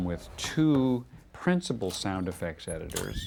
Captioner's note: none